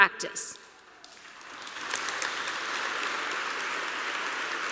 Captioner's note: applause